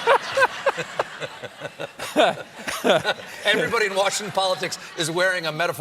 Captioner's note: laughter